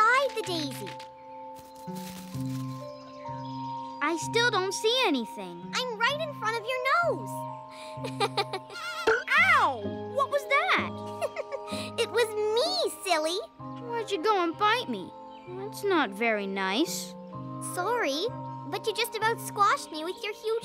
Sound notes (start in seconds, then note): 7.8 giggles